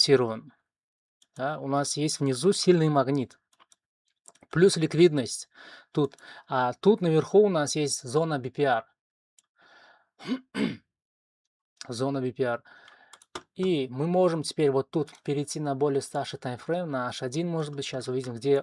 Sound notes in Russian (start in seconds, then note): 10.2 откашливается